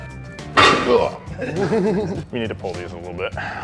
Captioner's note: laughs